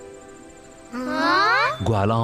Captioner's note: gasps